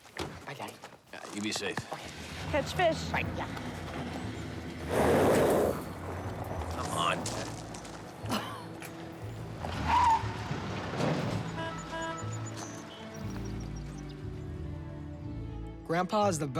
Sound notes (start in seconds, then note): 2.1 squeals tire in driveway; 9.2 horn beeps